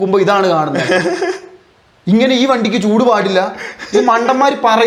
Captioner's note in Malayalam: പൊട്ടിച്ചിരി